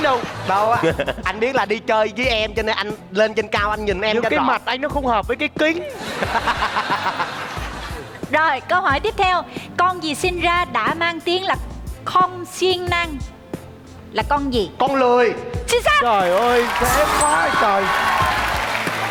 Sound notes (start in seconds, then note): 5.8 laughing